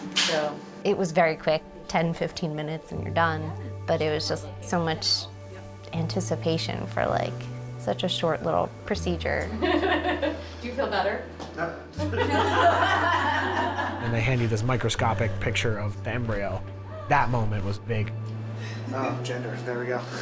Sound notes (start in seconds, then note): 12.0 all laughing; 19.6 laughs